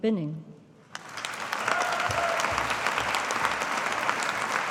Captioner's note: audience applauding